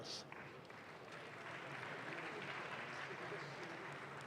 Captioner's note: audience claps